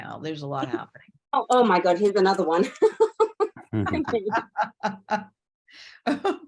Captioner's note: laugh